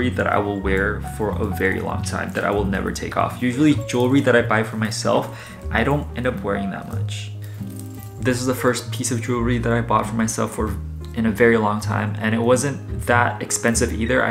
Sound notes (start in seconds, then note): none